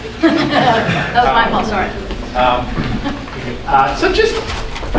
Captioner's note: laughs